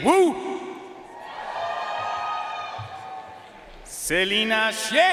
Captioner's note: audience cheering and applauding